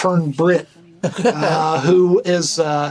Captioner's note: Burnett laughs